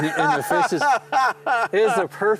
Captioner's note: laughs